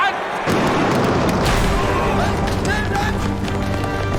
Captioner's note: gunfire